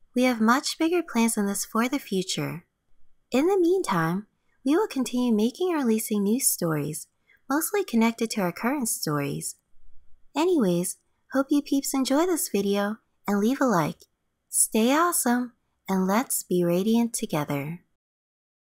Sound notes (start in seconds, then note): none